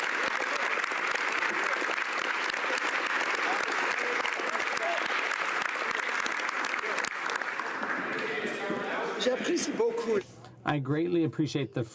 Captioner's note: applause